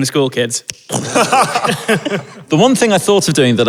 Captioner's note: others laughing